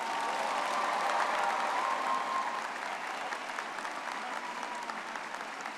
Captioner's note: audience cheering and clapping